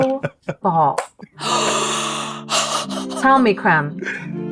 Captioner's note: gasping